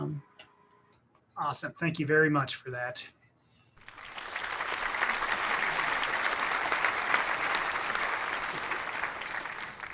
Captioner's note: clapping